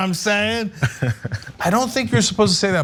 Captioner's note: laugh